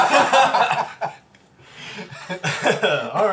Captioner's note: all laugh